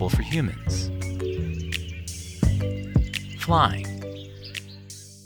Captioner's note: birds chirping